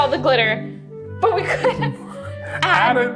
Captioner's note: laughing